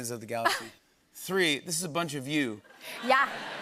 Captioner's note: laughter